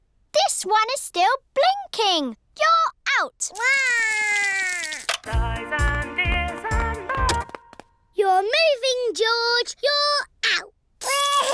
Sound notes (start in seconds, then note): 3.6 cries; 7.7 music stops; 11.0 cries